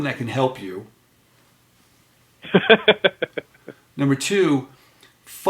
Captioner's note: laughing